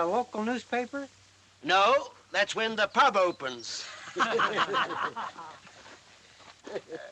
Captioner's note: all Laughing